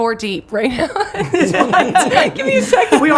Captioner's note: laughs